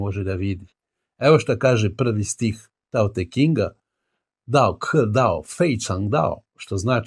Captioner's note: speaking chinese